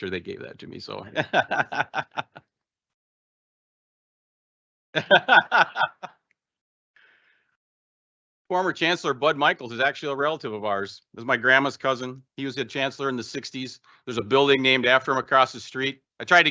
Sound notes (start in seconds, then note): 1.1 laughing; 4.9 laughing